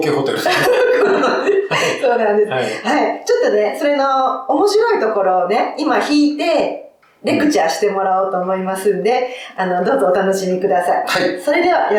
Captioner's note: laughs